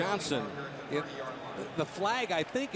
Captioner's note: pa announcement